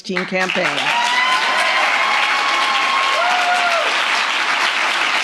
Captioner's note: audience cheers and applauds